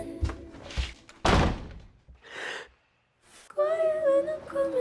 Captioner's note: door slamming; sad music